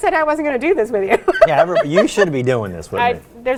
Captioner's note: laughs